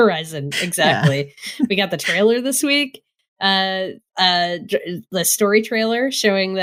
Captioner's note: laughs